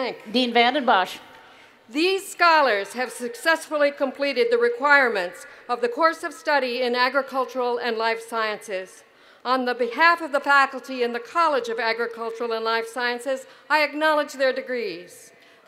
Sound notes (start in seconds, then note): none